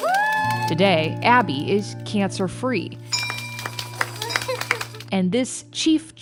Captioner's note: group celebrating; bell ringing